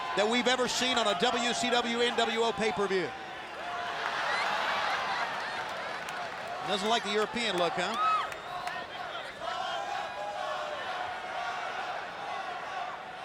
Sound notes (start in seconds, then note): 4.3 fans laughing; 8.8 fans chanting